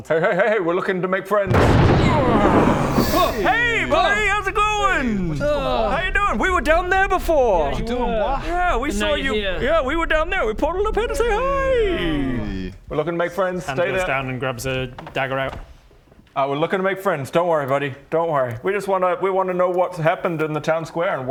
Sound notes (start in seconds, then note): 1.6 crash!; 3.1 hrh!